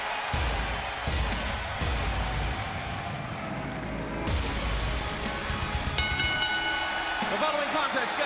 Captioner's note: crowd cheering; bell ringing